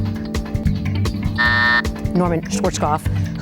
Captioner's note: timer buzzes